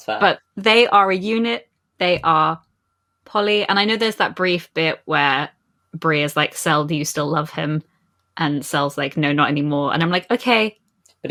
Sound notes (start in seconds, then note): none